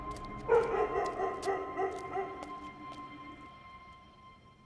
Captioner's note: dog barking